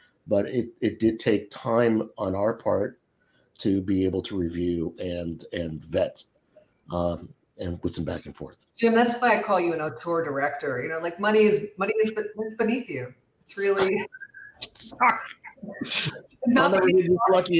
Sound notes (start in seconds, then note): 15.1 laughter